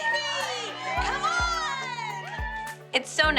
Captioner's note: all cheering